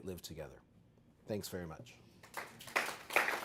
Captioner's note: applause